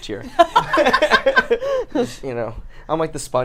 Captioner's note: laugh